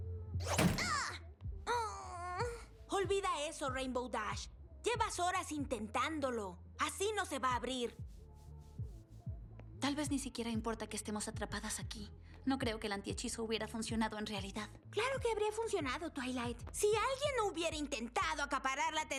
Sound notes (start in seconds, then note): 0.0 song continues muffled; 1.7 groan